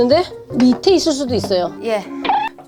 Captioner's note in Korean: 부시럭